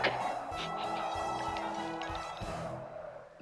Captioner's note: sniffing; licking